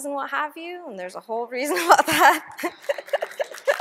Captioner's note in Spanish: risa nerviosa